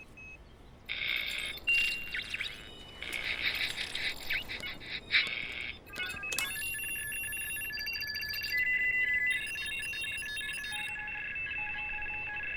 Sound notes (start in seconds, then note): 0.8 radio crackling; 6.0 radio beeping